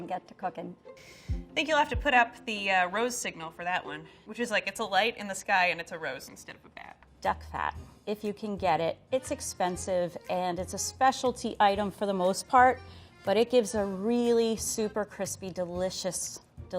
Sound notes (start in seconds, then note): none